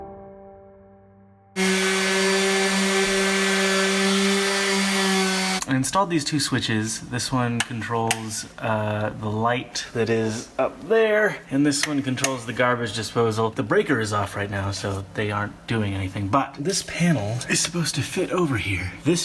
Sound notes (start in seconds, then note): 0.0 piano music; 1.5 orbital sander sanding